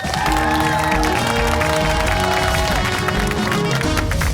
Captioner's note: cheers and applause